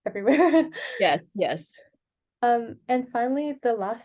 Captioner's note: laughs